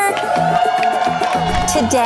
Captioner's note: crowd cheers